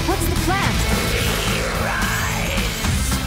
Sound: guttural snarling; sheep bleats

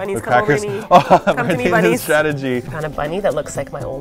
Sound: giggling

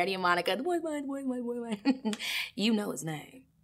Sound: laughs

